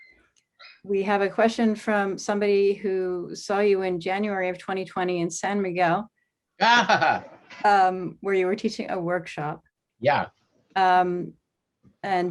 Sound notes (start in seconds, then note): 6.6 laughing